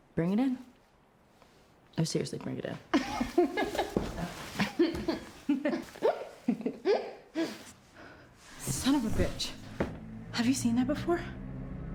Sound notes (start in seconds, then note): 4.5 Rachel and Claire laugh; 4.6 laughs